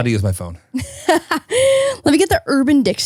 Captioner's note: laughing